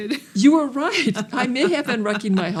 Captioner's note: laughs